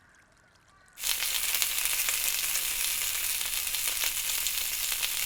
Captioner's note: sausages sizzling